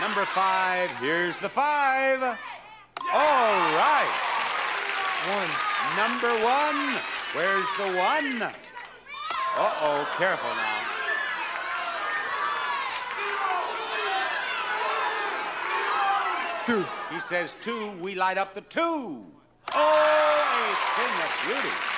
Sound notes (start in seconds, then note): 3.0 bell chimes; 3.2 audience clapping; 9.3 bell chimes; 11.0 audience murmuring; 19.5 bell chimes; 21.8 audience clapping